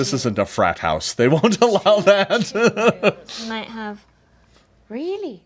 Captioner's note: laughing